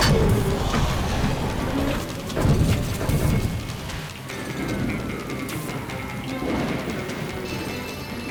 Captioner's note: gunshot